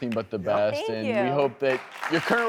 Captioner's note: audience clapping